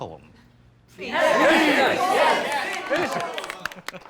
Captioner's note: crowd